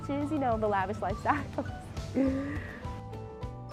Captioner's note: laughter; upbeat music